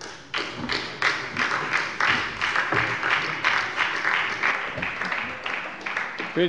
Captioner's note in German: Beifall bei der SPD